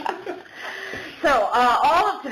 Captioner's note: laughter